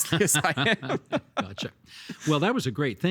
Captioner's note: both laughing